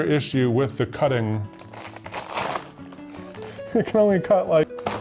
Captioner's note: bag rustling